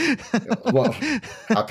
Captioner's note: laughs